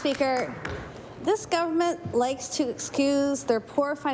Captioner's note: applause